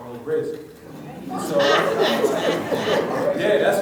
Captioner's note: laughs